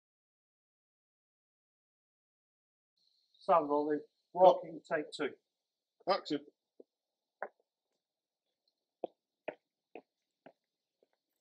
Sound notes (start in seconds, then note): 9.0 footsteps